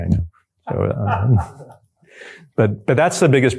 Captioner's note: chuckles